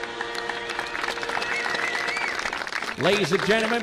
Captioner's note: applause